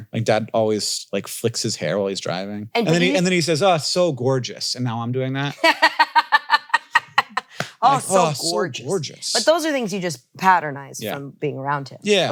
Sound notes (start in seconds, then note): 5.5 laughs